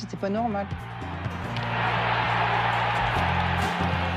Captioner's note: crowd cheers